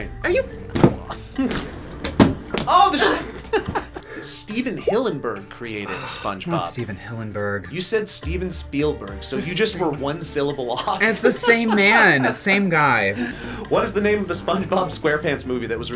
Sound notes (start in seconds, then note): 1.4 chuckles; 3.0 laughs; 5.8 sighs; 10.7 laughs